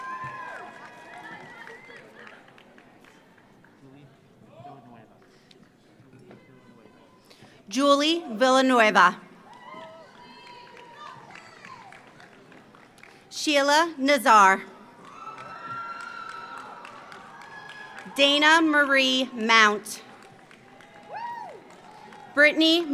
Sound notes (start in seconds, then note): 0.0 audience cheers; 0.0 audience applauds; 9.4 audience cheers; 9.4 audience applauds; 14.8 audience applauds; 14.9 audience cheers; 20.0 audience applauds; 20.0 audience cheers